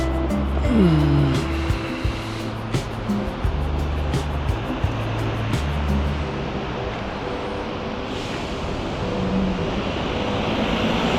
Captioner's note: wind Blowing